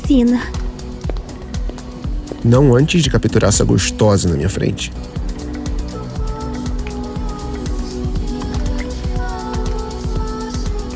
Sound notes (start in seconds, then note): 6.6 kisses